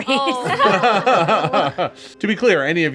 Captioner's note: group laughs